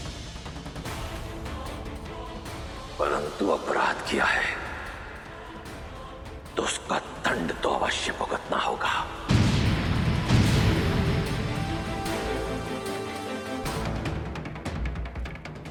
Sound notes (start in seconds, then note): 9.2 volcano erupting